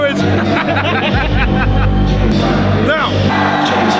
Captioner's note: laughs